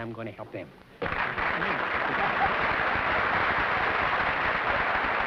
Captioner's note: applause